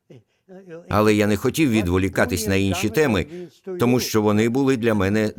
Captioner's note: imitating Einstein